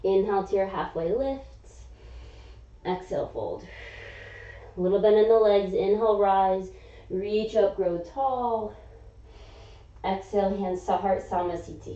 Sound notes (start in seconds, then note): 3.6 exhaling; 3.6 inhaling; 9.2 inhaling